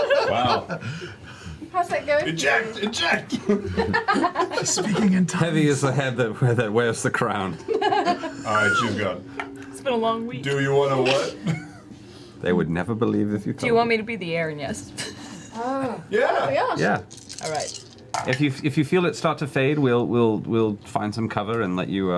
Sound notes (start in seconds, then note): 4.2 whispers; 7.5 laughter